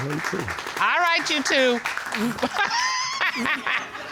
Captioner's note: laughs; audience laughing